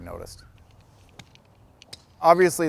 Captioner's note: golf ball clacks